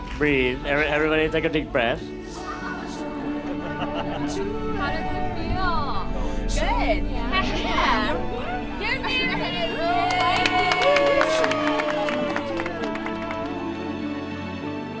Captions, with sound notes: Breathe. Everybody take a deep breath. - How does it feel? - Good! Heck yeah! - You're married! (applause)